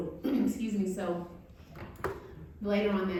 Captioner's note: throat clearing